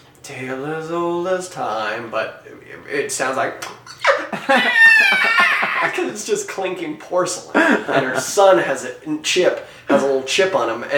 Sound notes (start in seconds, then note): 3.9 laughing hysterically; 4.6 screeches